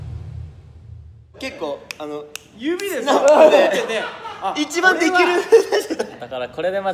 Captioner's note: snaps